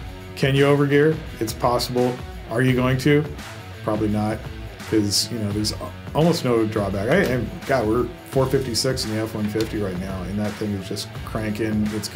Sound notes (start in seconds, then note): 6.9 some stammering